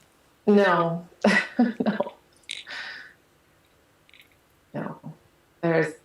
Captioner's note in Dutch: lacht